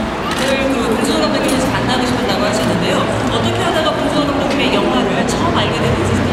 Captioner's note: speaking Korean